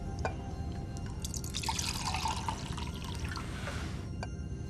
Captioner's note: drink pouring